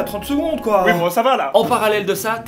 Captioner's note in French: pleurs